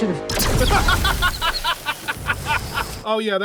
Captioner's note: bursts out laughing